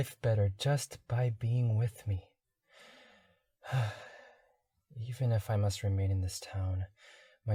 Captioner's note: sighs